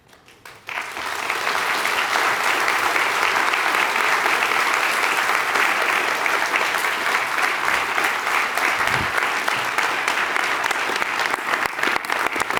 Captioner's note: applause